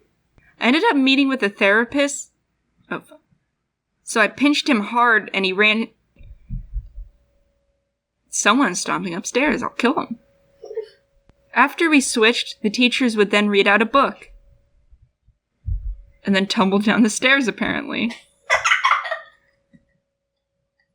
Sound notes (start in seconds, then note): 6.2 stomp; 10.7 laugh; 14.9 stomp; 18.5 laugh